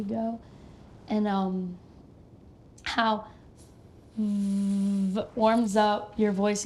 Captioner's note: buzzes